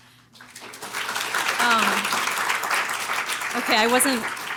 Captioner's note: applause